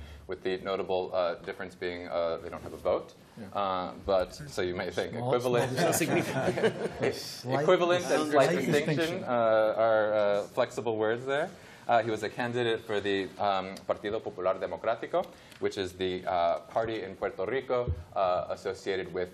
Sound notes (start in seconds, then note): 5.6 laughter